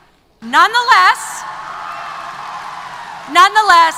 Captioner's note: applause & Cheers